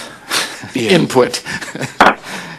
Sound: laughter

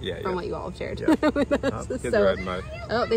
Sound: laughs

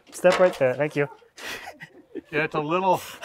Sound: laughs

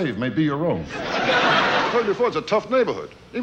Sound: audience laughing

